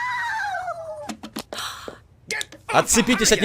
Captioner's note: gasps